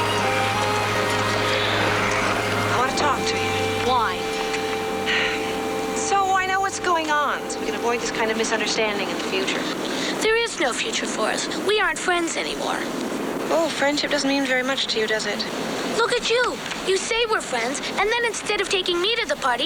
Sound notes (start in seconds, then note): 4.6 sighs